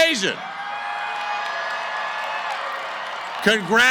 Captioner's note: cheering & applause